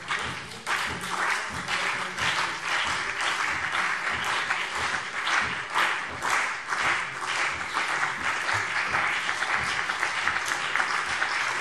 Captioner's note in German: Beifall CDU